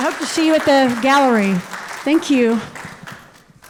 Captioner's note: audience applauds